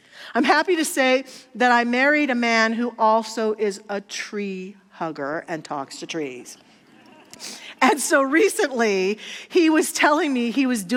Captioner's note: audience laughter